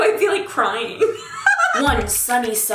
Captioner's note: laughing